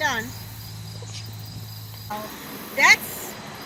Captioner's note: wind blowing